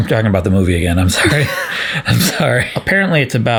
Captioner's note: both laugh